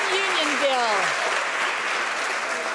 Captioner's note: some Applause